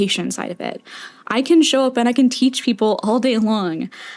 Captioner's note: inhale